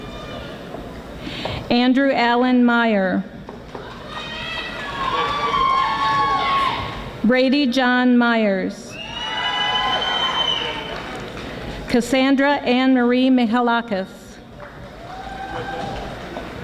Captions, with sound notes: Andrew Alan Meyer (audience applauding) Brady John Meyers (audience applauding) Cassandra Ann Marie Mihalakis